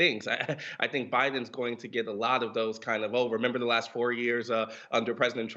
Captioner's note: laughs